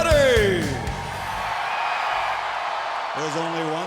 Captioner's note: audience cheering